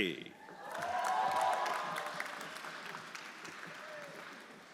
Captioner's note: everyone applauding